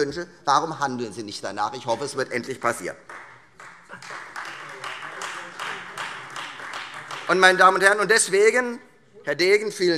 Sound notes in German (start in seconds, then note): 2.8 Beifall Freie Demokraten